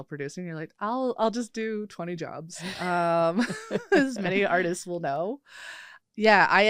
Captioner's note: laughs